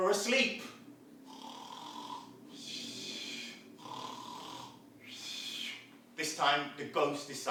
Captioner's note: sound of snoring